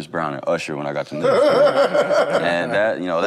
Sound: group laughs

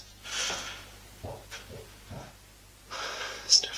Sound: banging

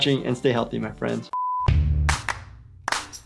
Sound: beep; rhythmic whistling music

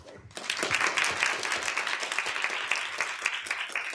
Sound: applause

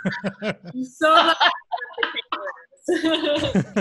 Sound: laughter

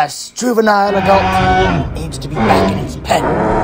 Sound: roaring

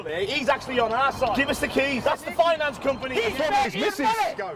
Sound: phone ringing

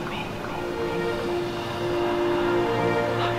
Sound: beautiful Exhale

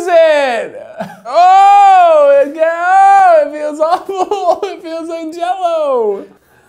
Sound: yelling

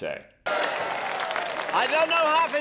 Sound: crowd cheering

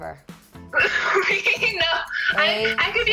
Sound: laughing

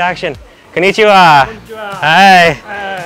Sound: speaks in foreign language

